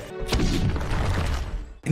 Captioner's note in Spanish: Explosíón